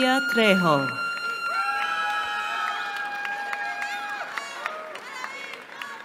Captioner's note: cheering